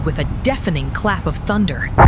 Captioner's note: volcanic Eruption